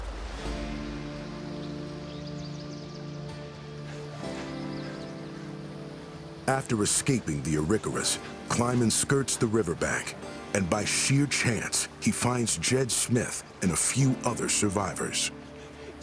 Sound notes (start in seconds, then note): 0.9 birds chirping